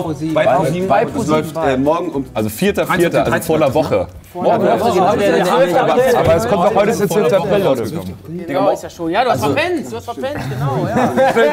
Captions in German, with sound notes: Es läuft morgen um ... - Also, 4.4., also vor 'ner Woche. (Stimmengewirr) Ja, du hast verpennt, genau! (Lachen)